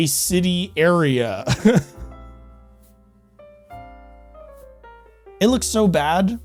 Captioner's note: laughs in Disbelief